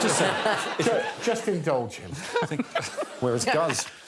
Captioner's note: audience laughing